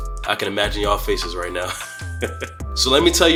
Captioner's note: laughs